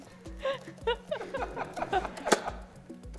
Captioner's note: laughter